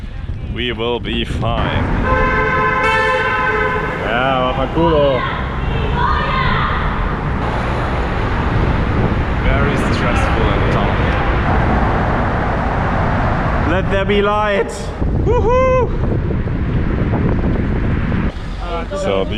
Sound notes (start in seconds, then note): 1.6 honking; 3.4 swearing